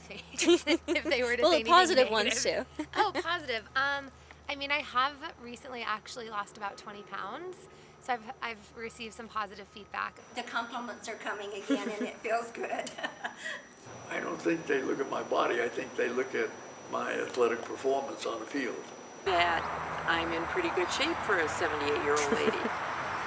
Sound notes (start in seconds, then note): 0.2 laughter; 11.6 laughs